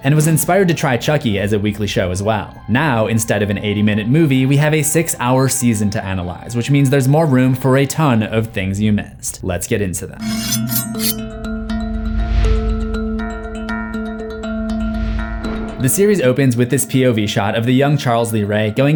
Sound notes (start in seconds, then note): 10.2 sword scrapes; 12.0 sinister music